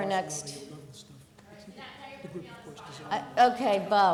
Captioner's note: murmuring